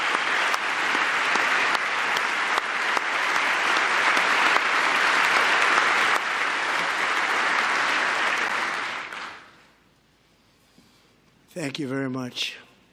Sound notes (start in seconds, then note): 0.0 applause